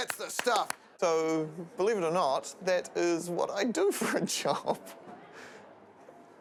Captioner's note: chuckles